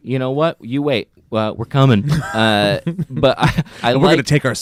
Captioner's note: chuckles